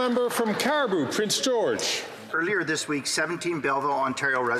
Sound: some Applause

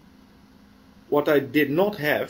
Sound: pause

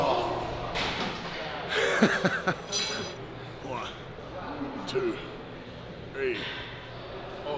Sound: laugh

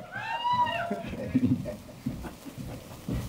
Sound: cheering

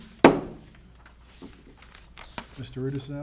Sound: gavel hammering

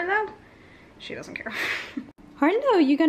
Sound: laugh

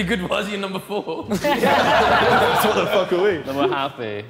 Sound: Sidemen laughing

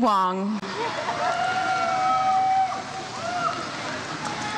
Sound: crowd cheers

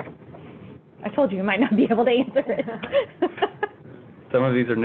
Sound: laughing

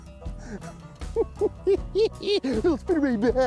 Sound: giggling

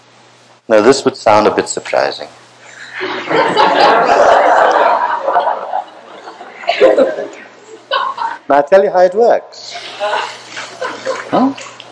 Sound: laughter

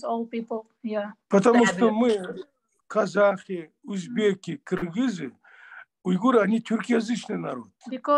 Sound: in Russian

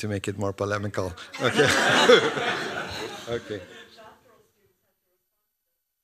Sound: laughter

